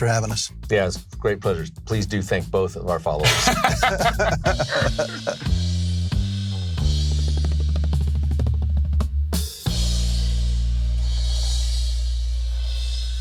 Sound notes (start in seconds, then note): 6.3 laughing